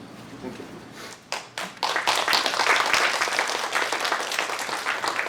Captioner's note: applause